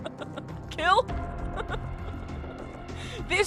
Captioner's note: laughter